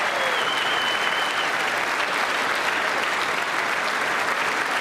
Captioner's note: applause